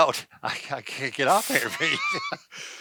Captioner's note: laughing